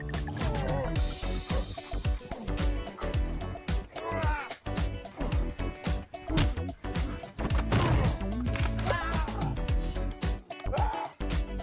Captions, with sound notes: Ugghh argh! [Tendon snap, bone pops out of socket] Argh! Ahh!